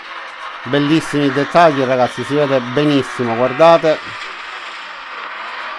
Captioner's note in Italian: Applauso